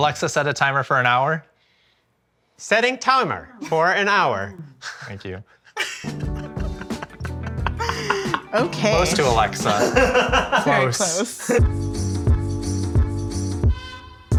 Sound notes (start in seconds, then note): 5.6 laughs; 11.8 upbeat music